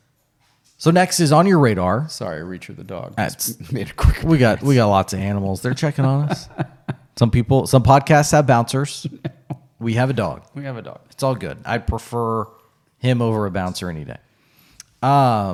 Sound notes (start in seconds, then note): 3.4 chuckles; 5.5 laughing